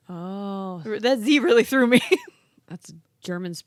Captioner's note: laughs